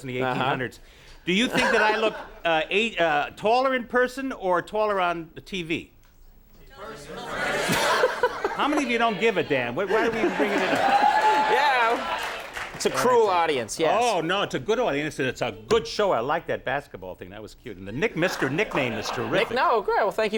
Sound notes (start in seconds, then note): 7.7 Conan laughs; 9.8 audience cheers